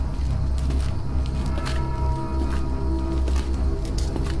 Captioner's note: footsteps hastening